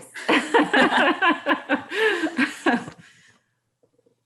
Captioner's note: laughing